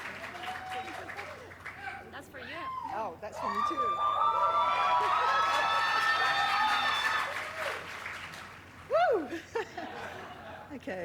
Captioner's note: applause